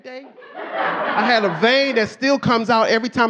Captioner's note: audience laughing